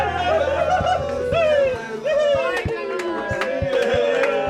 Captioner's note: energetic music; all cheer